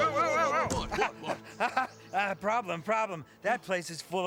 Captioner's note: laughs